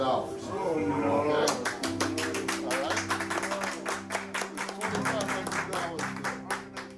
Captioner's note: thoughtful music continues; crowd applauding